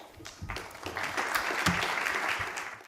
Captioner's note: audience applause